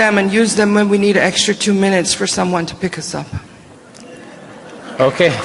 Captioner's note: applause